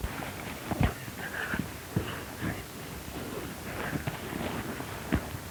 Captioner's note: thudding and grunting